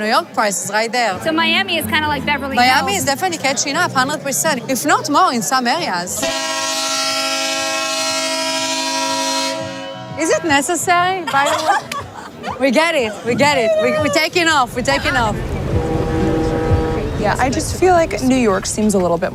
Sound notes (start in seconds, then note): 6.1 喇叭声; 6.1 loud Horn